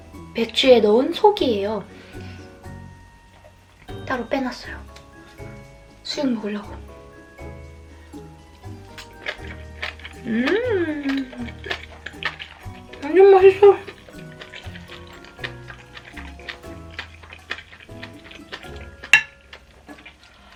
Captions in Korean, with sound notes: 배추에 넣은 속이에요 따로 빼놨어요 수육이랑 먹을려고 (아삭아삭 씹히는 소리) 음~ 완전 맛있어 (아삭 아삭)